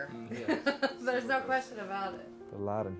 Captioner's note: laughing